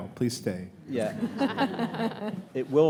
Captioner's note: audience laughs